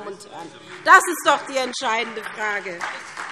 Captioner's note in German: Beifall SPD